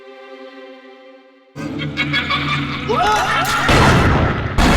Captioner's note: musical sting of intrigue; crazed laughing and screaming